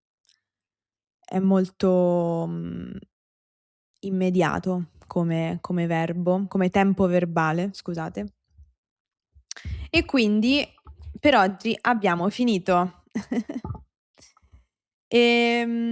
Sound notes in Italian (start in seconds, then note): 13.1 risate